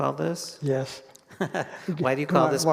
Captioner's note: chuckles